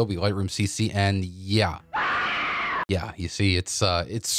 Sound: woman screaming

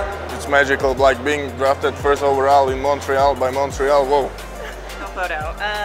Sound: laughs

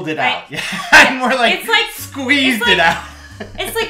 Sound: laughing

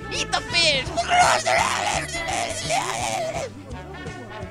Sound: vomiting

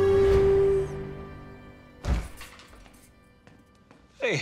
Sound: door opens

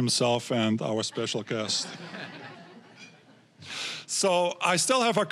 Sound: audience laughing

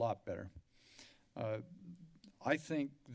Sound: sniffles

